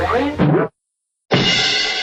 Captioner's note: cartoonish windup noise; cartoonish miss noise; cartoonish cymbal noise